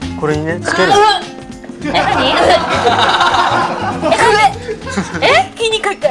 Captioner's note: gagging